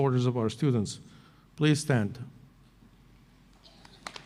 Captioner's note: applause